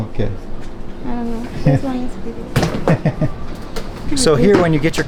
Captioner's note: laughs